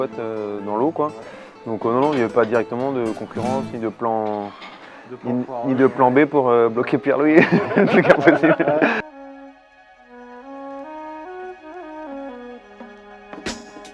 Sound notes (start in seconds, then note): 7.3 rires